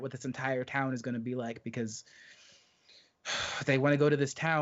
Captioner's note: exhales resignedly